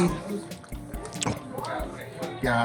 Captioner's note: chews up shrimp